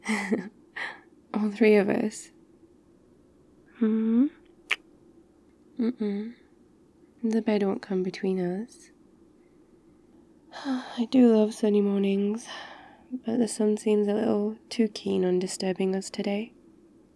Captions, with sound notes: *laughs* all three of us mmm *kiss* uh-uh the bed won't come between us *sighs* I do love sunny mornings but the sun seems a little too keen on disturbing us today